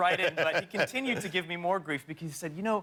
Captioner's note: laughter